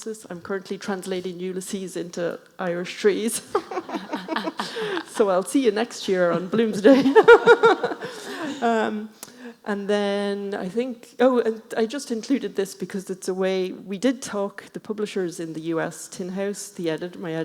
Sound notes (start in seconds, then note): 3.4 laughing